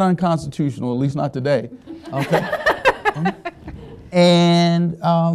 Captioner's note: all laughing